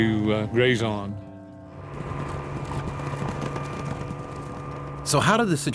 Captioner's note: helicopter blades whirring